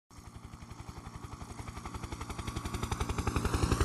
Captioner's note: helicopter in flight